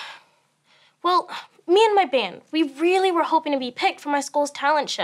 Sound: sighs

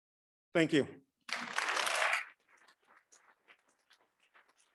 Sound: audience clapping

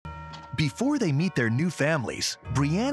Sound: voiceover

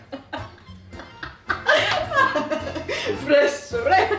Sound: almost choking

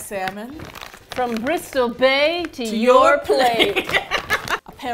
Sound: both laugh

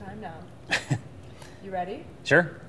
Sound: chuckling

